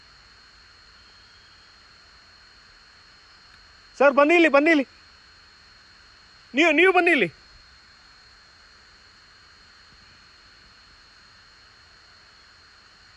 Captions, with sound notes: Sir, come here, come here (Forest officer calling) you come here (Forest officer speaking)